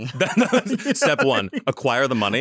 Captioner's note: both laugh